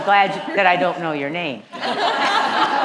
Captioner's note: laughter